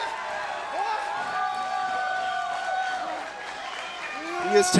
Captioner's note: crowd cheering